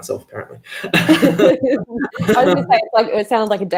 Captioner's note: both laugh